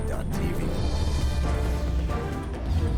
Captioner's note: voiceover